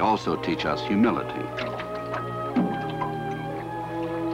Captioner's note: none